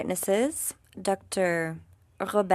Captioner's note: speaking French